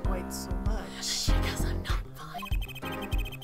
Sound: whispers

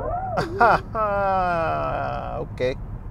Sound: laughing

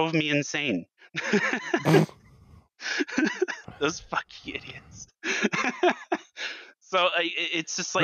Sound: laughs

